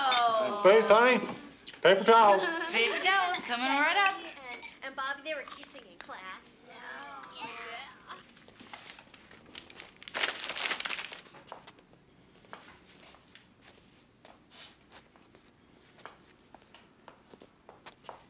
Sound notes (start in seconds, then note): 4.2 children groaning; 5.9 insects chirping